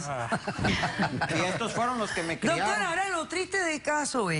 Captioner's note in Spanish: Ríe